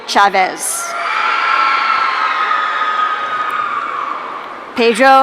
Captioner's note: audience cheering